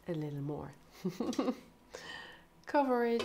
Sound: laughs

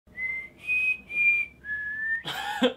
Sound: whistles

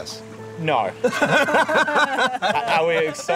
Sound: laughter

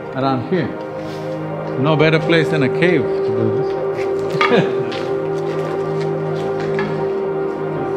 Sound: laughs

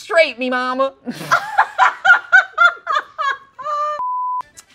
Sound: both laughing

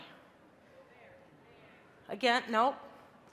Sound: crowd

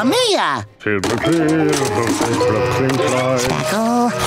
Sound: humming

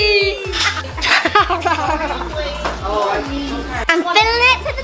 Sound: laughs

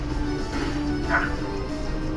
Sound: this dog barks

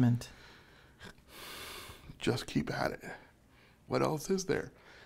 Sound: sighs

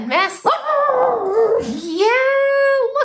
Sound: howling

